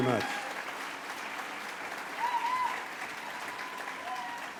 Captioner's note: applause